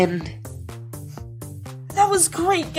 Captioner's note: sniffing